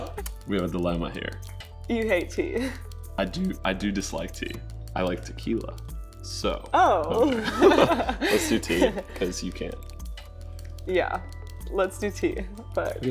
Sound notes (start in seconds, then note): 7.2 both laughing